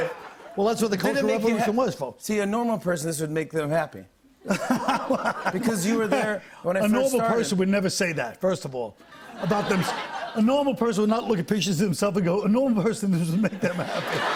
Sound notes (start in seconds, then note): 4.4 laughter